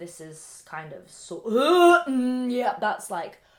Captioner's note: gagging